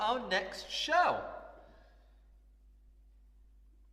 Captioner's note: awkward silence